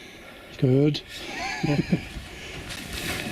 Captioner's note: laughs